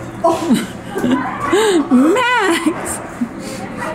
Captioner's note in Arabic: يضحك